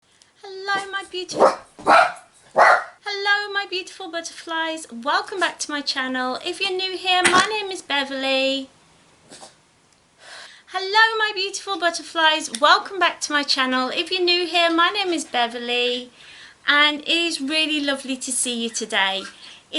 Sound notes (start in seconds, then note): 2.5 dog starts barking; 9.2 dog sneezes